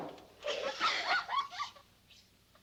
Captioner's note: all laughing